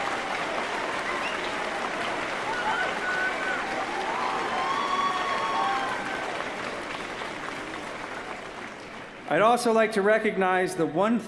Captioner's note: cheers & applause